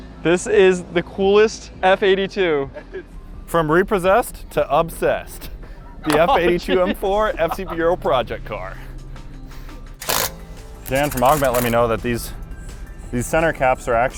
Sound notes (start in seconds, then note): 10.0 tool whirring